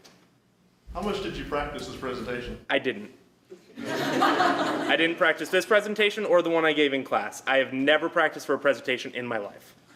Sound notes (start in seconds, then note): 3.6 laughter